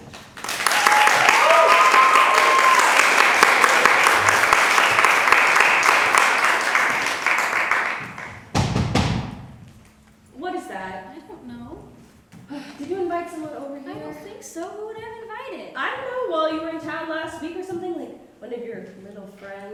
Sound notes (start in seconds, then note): 0.0 applause; 8.5 knock knock knock